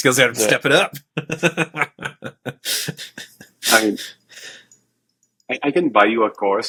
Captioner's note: laughter